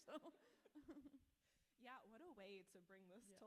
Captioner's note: author laughs